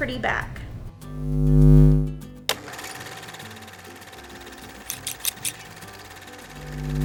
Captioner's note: light bulb buzzing; video camera whirring